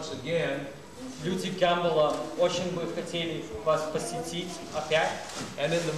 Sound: non-english speech

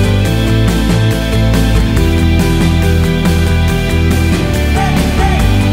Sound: light wave effect

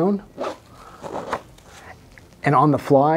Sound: zipping quietly

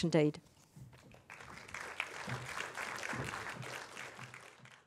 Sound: applause

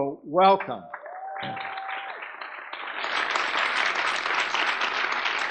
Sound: audience applauding

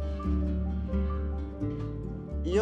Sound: speaking spanish

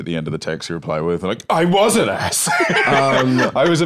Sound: laughs

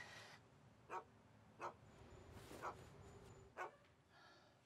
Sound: dog barking

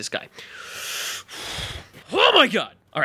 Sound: deep breath

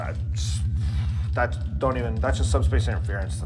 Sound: sigh

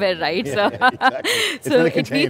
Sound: laughing

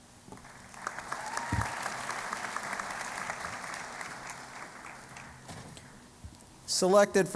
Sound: applause

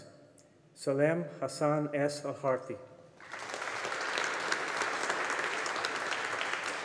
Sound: audience applauding

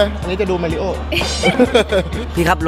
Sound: laughs

